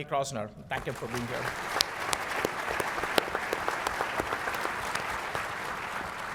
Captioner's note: applause